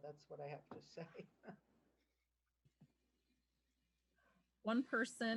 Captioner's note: laughter